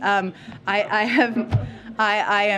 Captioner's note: laughter